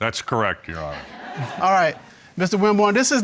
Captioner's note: audience laughs